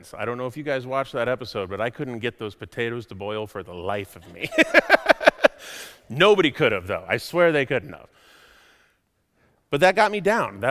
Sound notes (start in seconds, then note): 4.2 laughs